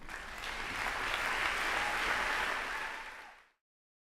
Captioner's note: applause